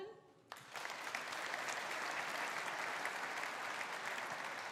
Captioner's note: audience applauding